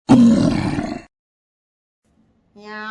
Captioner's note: troll growling